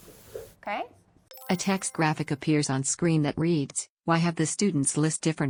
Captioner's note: chime